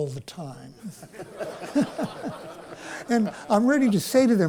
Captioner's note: laughter